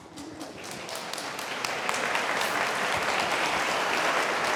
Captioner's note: applause